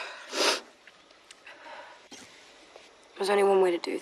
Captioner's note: sniffs and sighs; sniffs